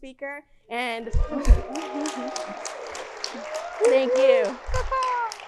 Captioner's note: audience clapping